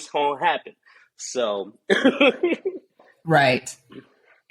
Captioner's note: laughs